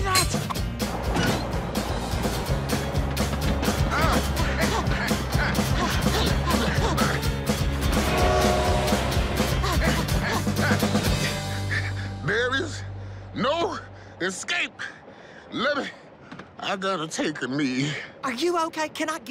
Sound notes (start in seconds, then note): 3.8 grunting; 12.0 panting